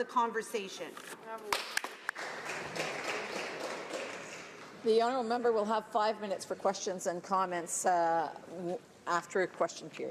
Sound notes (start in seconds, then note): 4.9 some Applause